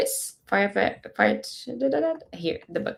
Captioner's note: mumbling